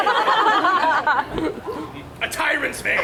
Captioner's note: audience laughs